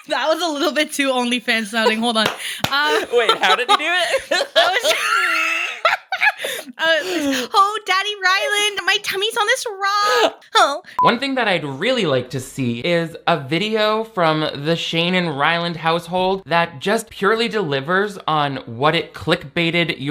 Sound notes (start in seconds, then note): 1.6 laughs; 2.1 claps; 4.7 both laughing loudly